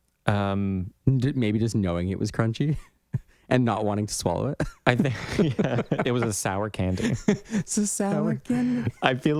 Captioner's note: laugh